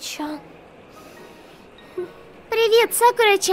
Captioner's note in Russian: грустно вздохнула